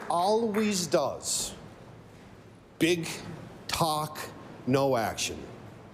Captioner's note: applause